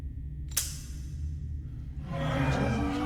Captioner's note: gun snaps; crowd groans and jeers